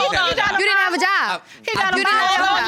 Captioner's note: arguing